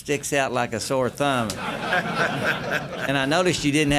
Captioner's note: laughter